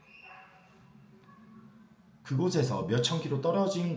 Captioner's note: dog barking sounds, children's screaming sounds